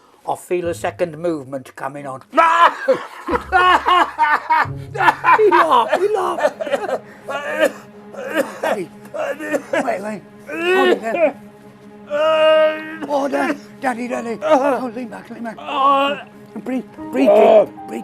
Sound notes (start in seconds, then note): 2.3 laughter; 8.1 coughing